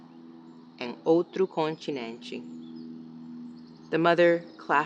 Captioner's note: speaks in foreign language